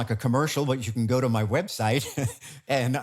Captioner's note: chuckles